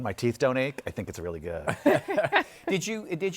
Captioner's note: laughter